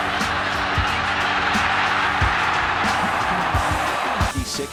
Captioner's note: cheering